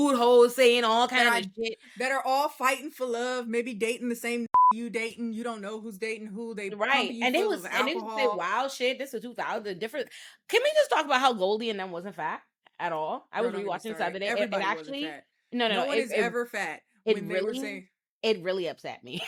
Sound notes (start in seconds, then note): 4.5 beep